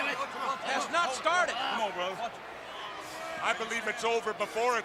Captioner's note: crowd chatter